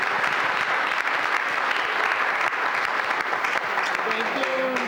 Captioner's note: applause